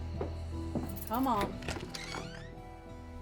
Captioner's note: footsteps; unlocks door